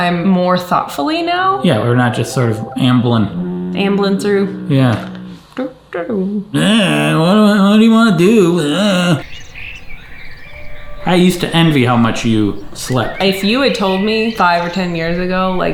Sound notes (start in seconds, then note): 5.5 hums; 9.2 peaceful music